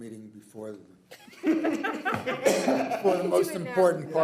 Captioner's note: people laugh